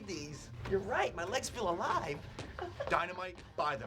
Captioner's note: laughs